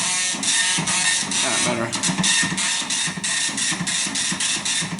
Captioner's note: printer buzzing loudly